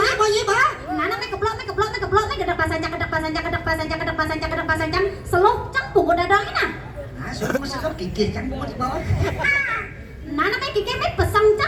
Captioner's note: laughs